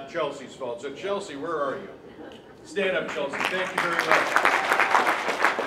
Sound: applause

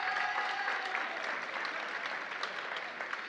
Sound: applause

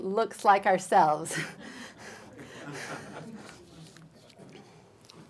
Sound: laughter

